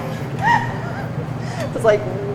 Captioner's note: student laughs